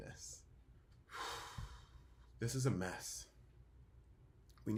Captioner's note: sighing